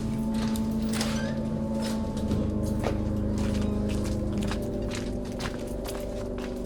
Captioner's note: ominosa de la música; viento